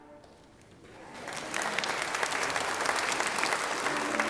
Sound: applauding

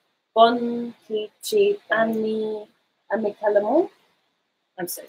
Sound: speaking in foreign language

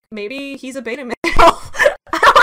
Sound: laughs

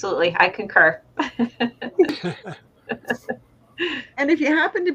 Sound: laughs

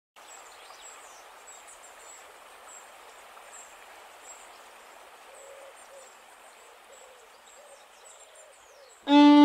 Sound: sounds of birds chirping, water flowing

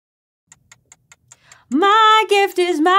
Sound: clock ticking

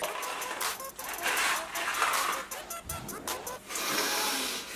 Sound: candies pouring; sharp inhale

